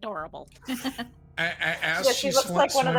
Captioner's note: laughing